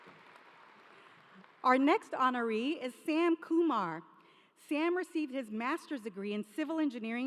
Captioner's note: applause